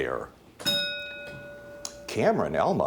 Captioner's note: bell dings